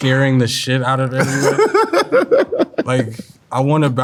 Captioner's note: laughing